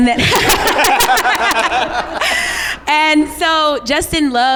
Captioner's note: laughs